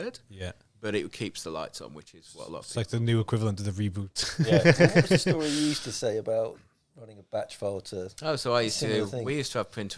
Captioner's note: laughing